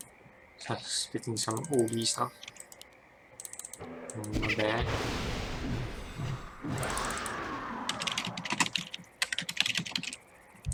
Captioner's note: typing sounds